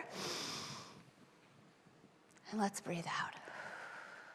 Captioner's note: breathing; exhaling